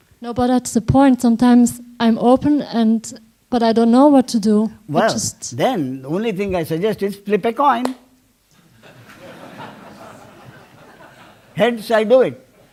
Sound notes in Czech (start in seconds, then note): 8.5 smích